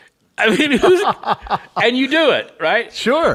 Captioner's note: cohost laughing